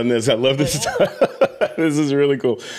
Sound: laughs

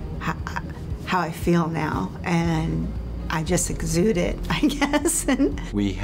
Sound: laughter

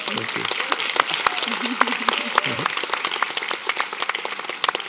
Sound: attendees applauding

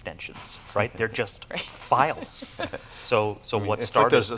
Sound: laughs

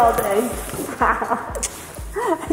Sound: both laughing

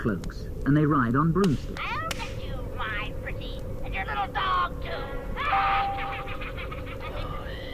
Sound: cackles

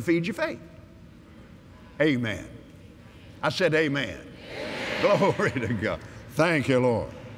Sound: audience "Amens"

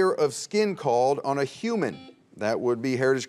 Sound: buzzer beeps

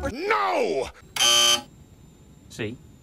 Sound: buzzer

